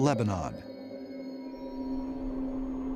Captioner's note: wind whistling